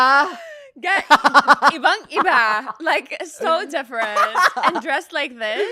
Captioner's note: laughs; laughs